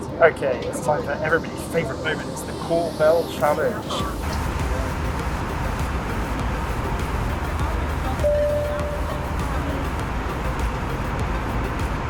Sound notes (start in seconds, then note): 7.4 bell rings